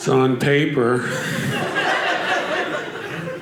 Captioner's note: audience laughing